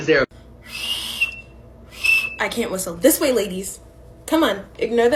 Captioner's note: whistling sounds